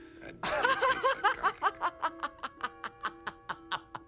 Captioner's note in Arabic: يضحك